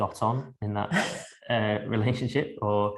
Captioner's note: laughing